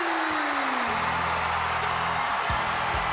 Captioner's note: crowd cheering